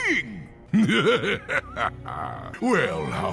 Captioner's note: laughing